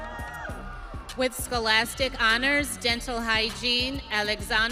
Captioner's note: audience cheering